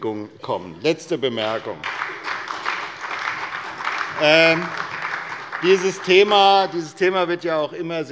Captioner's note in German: Beifall bei der SPD und bei Abgeordneten des BÜNDNISSES 90/DIE GRÜNEN